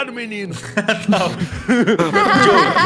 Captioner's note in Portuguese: risada